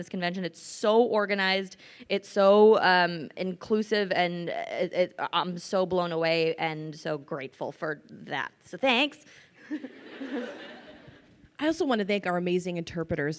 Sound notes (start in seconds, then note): 9.7 crowd laughs